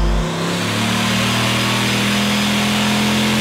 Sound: engine revving

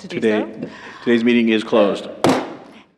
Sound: gavel Bangs

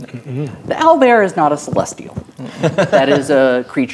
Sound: players laughing

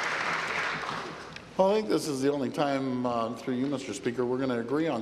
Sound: applause

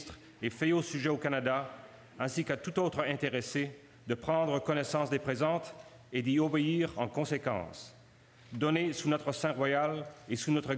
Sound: speaking French

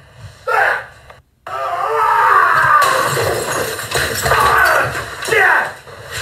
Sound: crazy yelling; glass breaking

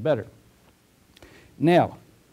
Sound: pause

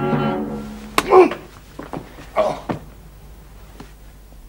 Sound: man groans

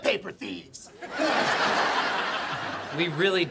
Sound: laughing

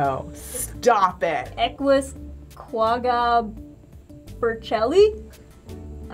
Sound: reading slowly

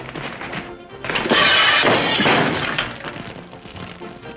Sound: glass breaking

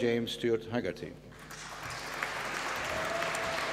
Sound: applause

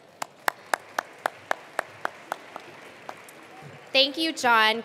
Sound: attendees applauding

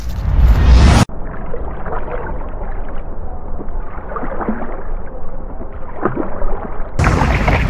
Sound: swoosh; under water sounds; splash, choking, water

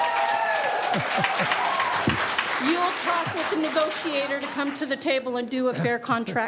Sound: laughter; cheering and applause; laughter

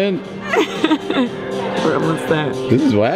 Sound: laughing

